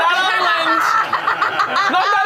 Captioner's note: group laughs